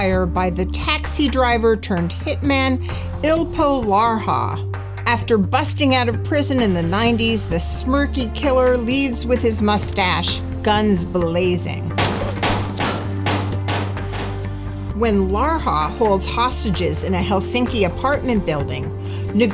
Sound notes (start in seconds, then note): 12.0 guns firing; 12.0 slow dramatic music